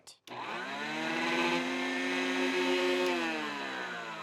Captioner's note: blender whirring